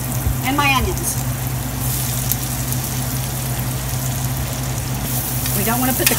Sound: sizzling

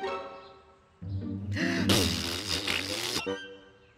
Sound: blows raspberry

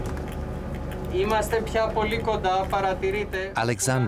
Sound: speaks Greek

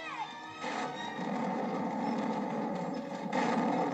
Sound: thunder rumbles

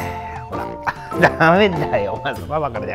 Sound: laughs

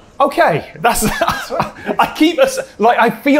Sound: laughs

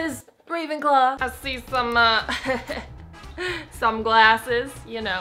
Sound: laughs

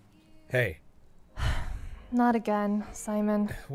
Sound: sighs

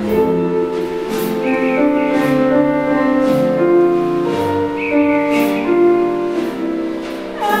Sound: bluebirds chirping

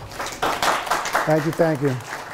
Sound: students applauding

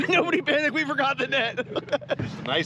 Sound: laughing

